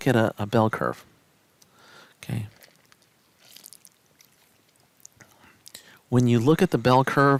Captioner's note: no Speech Detected